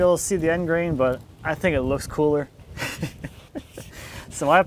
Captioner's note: laughs